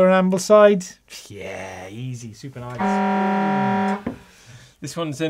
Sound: horn blares

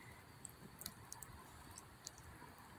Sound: crackling of the fire

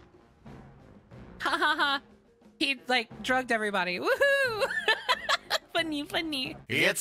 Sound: laughter

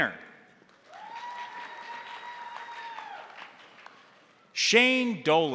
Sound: crowd applauding; crowd cheering

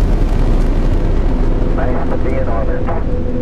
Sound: radio voice 4

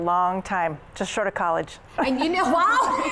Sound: laughing

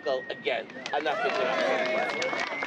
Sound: crowd cheers

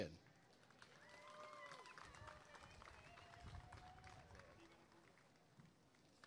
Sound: applause and cheering

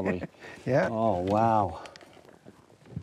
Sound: laughs

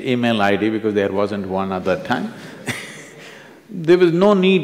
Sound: few laugh

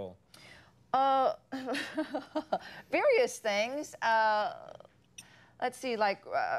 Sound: Sandra laughs

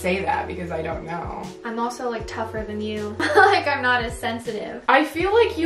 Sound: laughs

